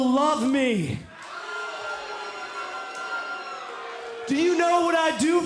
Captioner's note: cheers and boos